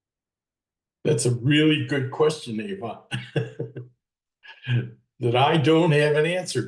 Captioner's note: laughs